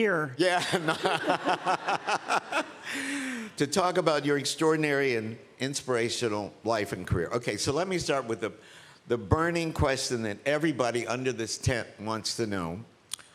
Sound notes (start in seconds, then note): 0.6 laughs